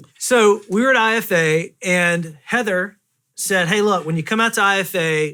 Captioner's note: none